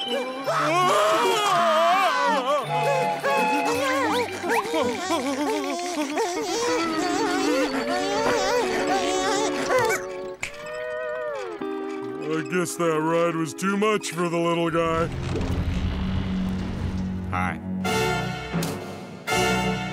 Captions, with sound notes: [moaning] [moaning] [snapping] I guess that ride was too much for the little guy. Hi.